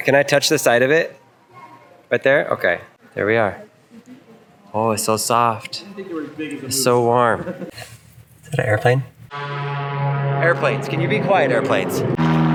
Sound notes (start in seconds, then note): 9.3 airplane engine roaring